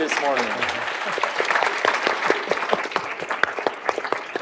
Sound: applause

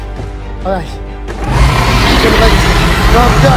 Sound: Albertosaurus roaring louder

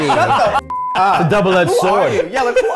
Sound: beep

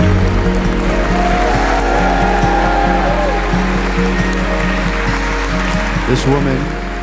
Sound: clapping; cheering

